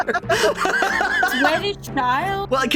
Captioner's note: laughing